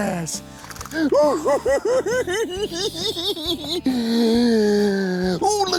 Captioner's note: giggling